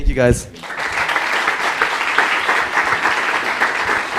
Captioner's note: applause